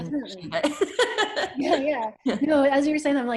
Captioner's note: laughs